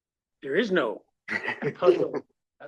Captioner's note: laugh